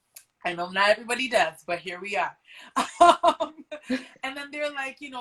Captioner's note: laughs